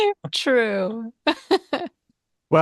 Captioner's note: laughs